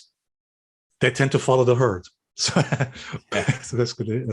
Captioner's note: laughs